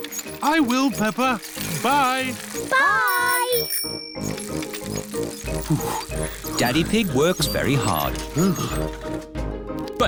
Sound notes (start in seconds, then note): 1.5 bell rings; 5.6 panting